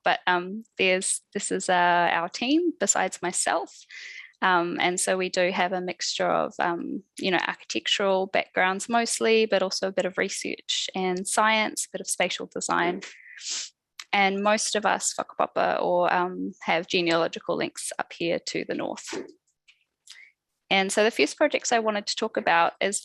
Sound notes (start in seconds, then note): 15.1 non-english speech